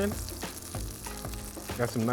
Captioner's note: shrimp sizzling